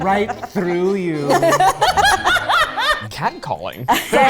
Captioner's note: everyone laughs